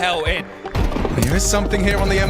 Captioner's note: gun firing